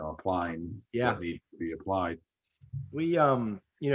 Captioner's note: laughs